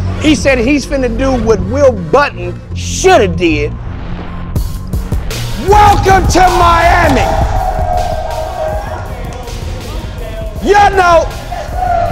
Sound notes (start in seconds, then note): 5.6 crowd cheering